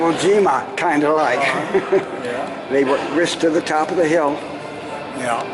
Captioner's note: laughter